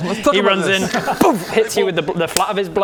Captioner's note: boof!